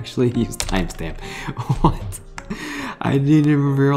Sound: laughs

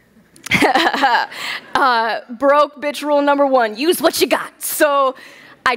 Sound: laughs

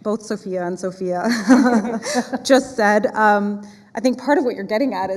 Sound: laughs

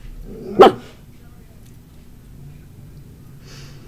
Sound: dog barking

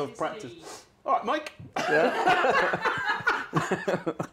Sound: laughter

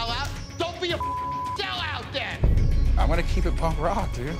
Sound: beep

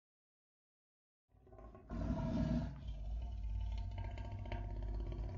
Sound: growling

